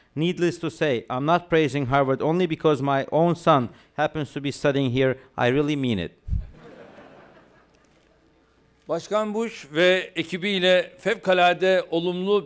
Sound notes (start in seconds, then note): 6.5 laughter; 10.2 non-english speech